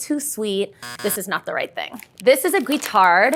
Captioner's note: buzzer sounds